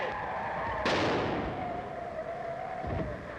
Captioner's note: explodes